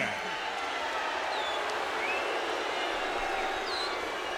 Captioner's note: crowd yelling